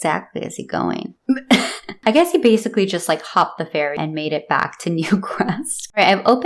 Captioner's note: laughter